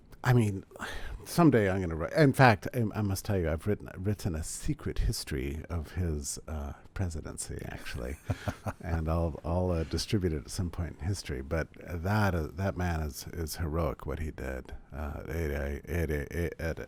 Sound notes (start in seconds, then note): 7.9 laughs